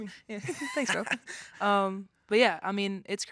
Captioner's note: laughing